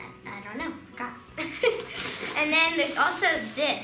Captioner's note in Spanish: risas